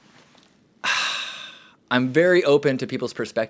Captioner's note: sighs loudly